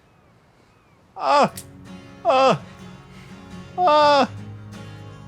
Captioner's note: Katya exclaims